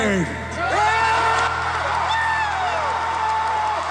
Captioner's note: crowd cheering